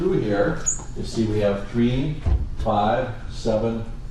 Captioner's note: marker squeaking